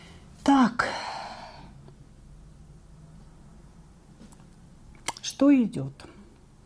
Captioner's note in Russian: вздыхает